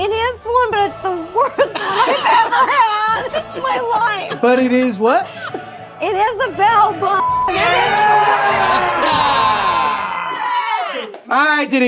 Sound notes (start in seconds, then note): 0.3 triumphant music continues; 1.4 all laughing; 8.5 contestants cheering; 8.5 triumphant music continues